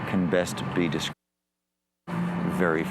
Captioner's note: muted